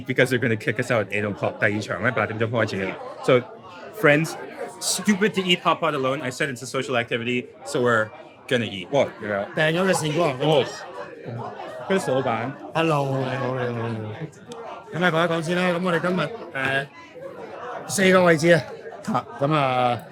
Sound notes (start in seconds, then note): 1.6 speaking in foreign language; 9.6 owner speaking in foreign language; 11.9 speaking in foreign language; 13.1 speaks in foreign language